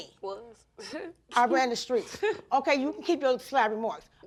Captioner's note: scoffs